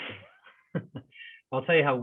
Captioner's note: doctors laughing